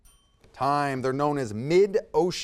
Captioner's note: timer dings